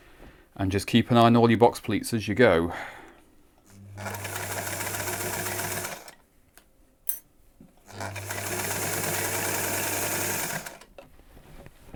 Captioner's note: sewing machine running